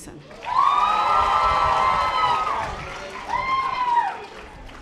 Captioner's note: audience applause